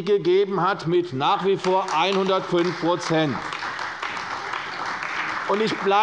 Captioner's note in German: Beifall bei der CDU und dem BÜNDNIS 90/DIE GRÜNEN